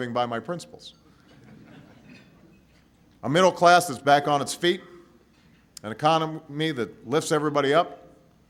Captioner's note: laughter